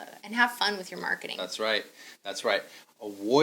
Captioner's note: none